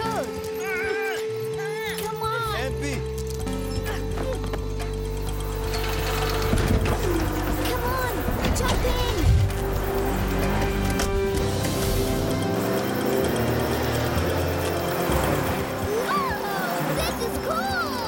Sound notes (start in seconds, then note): 0.2 bleating; 3.0 computer chiming; 5.4 whirring; 9.7 buzzing